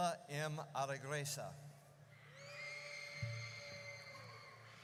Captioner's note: audience cheers